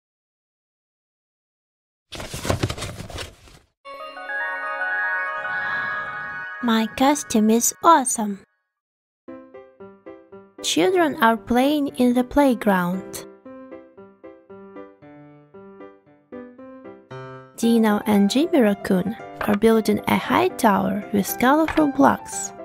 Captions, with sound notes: (box open) my costume is awesome! (happy music) children are playing in the playground Dino and Jimmy Raccoon are building a high tower with colorful blocks